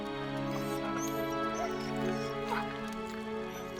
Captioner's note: Buck whining